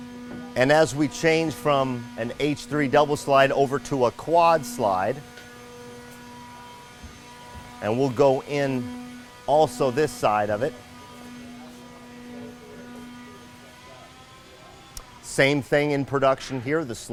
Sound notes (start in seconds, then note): 5.2 machines whirring; 11.2 machines whirring